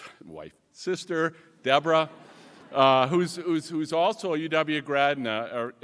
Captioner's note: laughs